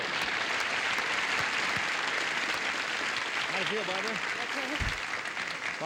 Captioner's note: applause